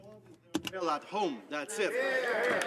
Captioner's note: speaking French